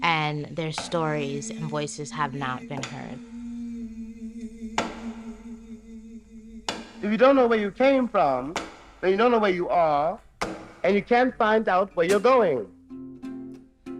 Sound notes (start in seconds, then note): 3.9 gentle vocalization music; 3.9 object tapping rhythmically